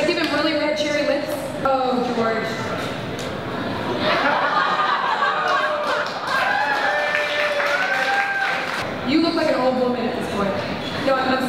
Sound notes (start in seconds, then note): 3.8 laughter and cheering